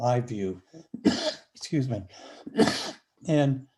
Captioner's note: coughs